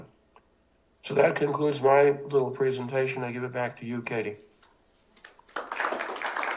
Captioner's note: applause